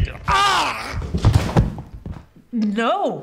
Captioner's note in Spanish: fuerte golpe en el piso